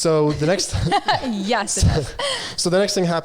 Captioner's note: laughing